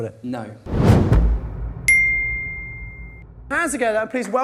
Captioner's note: rumbling followed by a bell